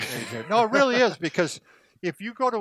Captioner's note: laughing